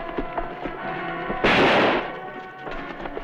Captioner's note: gunshot